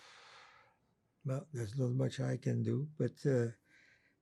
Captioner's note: sighing